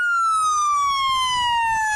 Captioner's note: nats of loud sirens